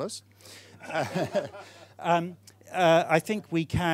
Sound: audience laughing

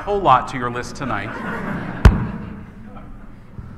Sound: laughing

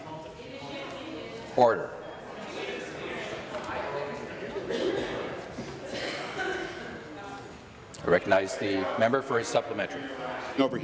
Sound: conversation din

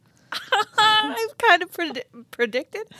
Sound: chuckling

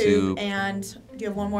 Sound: bubble popping

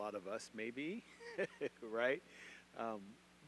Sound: chuckles

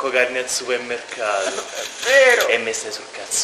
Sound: crying

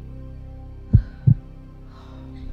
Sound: heartbeat

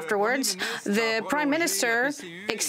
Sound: speaking French

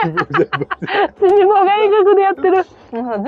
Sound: laughs

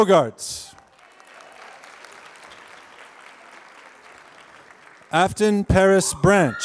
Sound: applause

